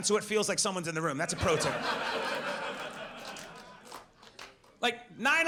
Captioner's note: audience laughs